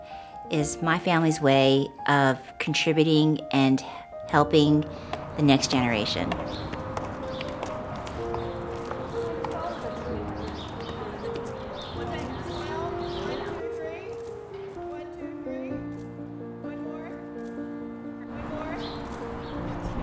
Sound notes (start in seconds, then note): 8.9 chatter